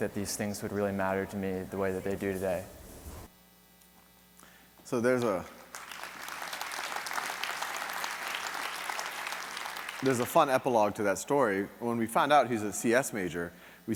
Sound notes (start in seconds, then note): 5.1 audience clapping